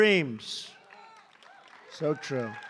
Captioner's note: applause